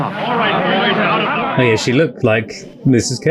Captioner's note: loud chattering